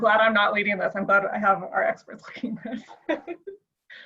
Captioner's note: laughs